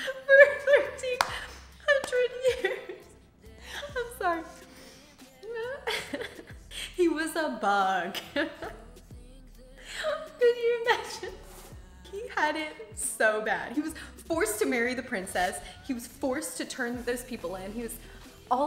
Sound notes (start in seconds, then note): 0.0 laughs; 5.1 laughs; 9.2 laughs